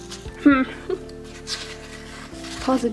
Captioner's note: laughs